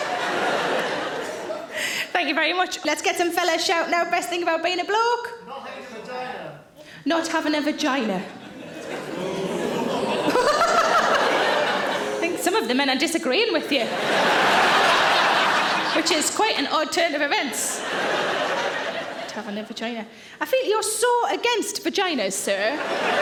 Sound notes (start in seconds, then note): 0.0 audience laughing; 9.0 men booing; 9.2 Sarah laughs; 13.4 audience laughing